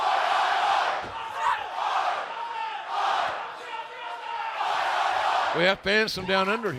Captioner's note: fans chanting